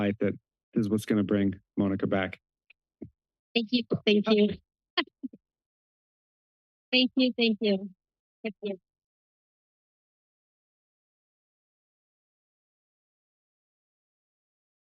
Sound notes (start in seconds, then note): 3.8 laughs